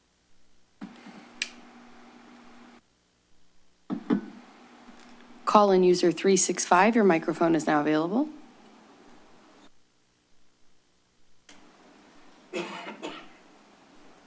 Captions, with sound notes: [clicks] Call in user 365, your microphone is now available. [distant coughing]